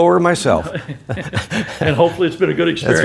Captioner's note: laughing